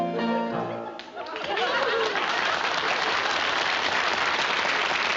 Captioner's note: applause